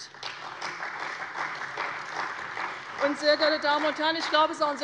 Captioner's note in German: Beifall bei der CDU und dem BÜNDNIS 90/DIE GRÜNEN